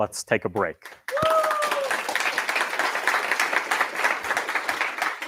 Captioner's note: cheers, applause